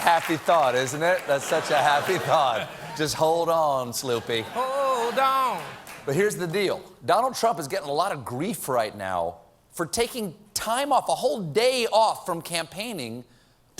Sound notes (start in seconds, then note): 0.1 cheering